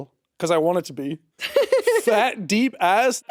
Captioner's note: chuckling